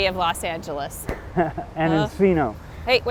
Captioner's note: laughs